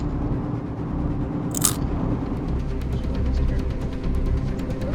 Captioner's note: chip Crunch